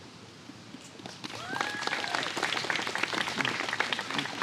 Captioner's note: applause